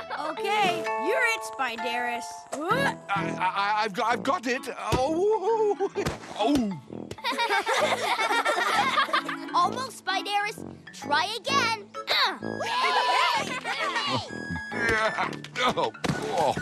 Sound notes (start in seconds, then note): 7.2 giggle; 12.6 giggle, shout